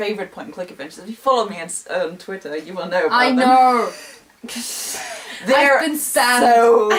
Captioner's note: laugh